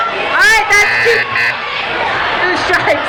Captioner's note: buzzing